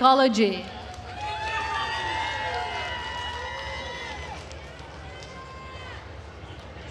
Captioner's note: attendees cheering and applauding